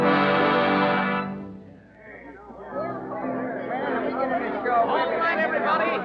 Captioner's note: crowd chattering